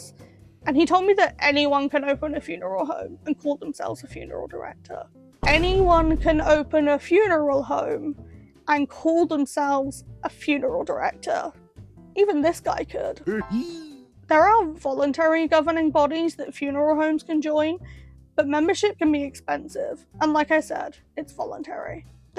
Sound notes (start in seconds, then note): 5.4 boom sfx